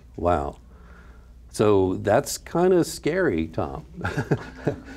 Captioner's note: laughs